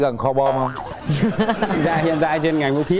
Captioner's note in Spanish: risas